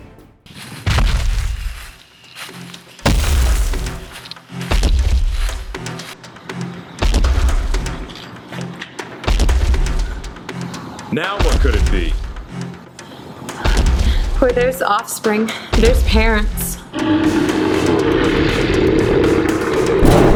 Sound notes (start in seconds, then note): 0.4 leaves rustling; 0.6 heavy thudding; 5.0 tense music; 17.0 creature roaring; 18.7 hollow metallic thudding